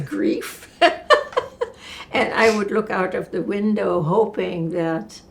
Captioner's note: laughing